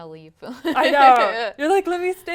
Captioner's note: laugh